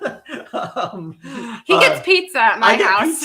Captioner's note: laughing